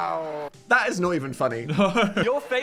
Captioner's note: laughs